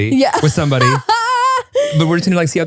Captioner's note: laughs loudly